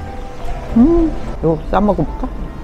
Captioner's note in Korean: 냠냠냠